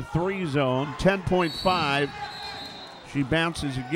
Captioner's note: whistles blaring